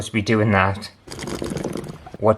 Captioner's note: bubbling Noise